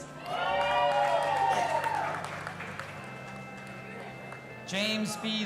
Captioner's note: audience applauding and cheering